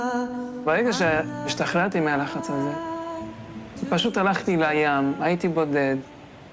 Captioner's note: young man speaking in foreign language